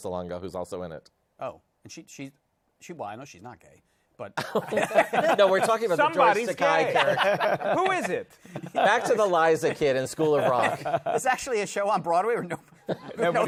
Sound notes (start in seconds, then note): 4.4 laughter